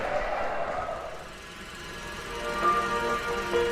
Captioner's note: projector clicking